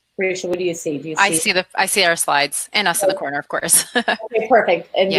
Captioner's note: laughs